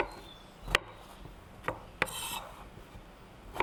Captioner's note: knife cutting sound